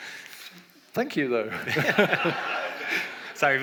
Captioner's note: audience laughs